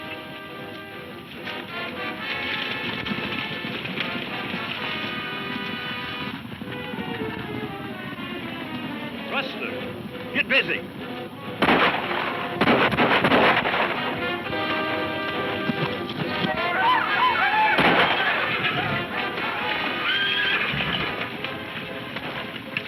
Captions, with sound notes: (dramatic music) (hooves thudding) Rustlers, get busy. (guns firing) (men shouting) (horses neighing)